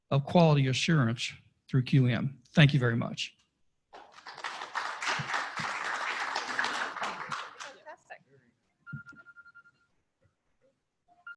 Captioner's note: applause